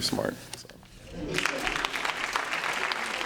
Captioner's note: applause